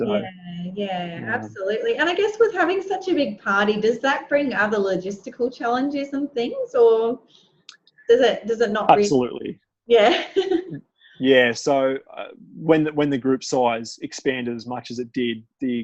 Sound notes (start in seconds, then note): 11.3 laughs